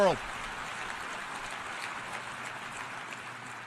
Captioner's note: applause